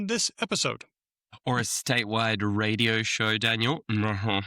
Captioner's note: laughs